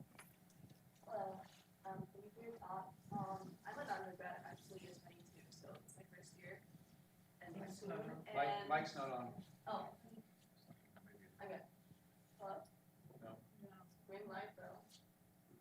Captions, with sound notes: - Hello thank you for your thoughts. I'm an undergrad actually (audio distorts) so it's my first year and-- - The mic's not on. - Mic's not on. - Oh.